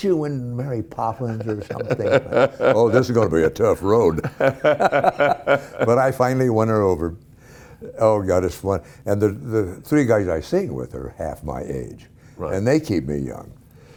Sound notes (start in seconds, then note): 4.6 laughing